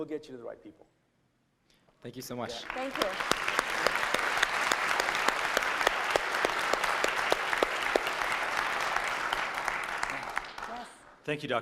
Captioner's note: applause